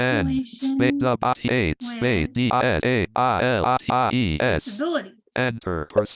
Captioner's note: screen reader rushing, skipping